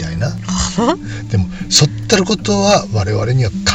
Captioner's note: laughs